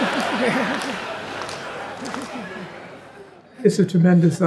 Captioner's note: crowd laughs